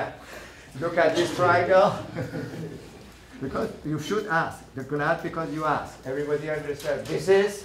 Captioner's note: laughing